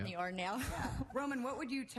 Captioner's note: chuckles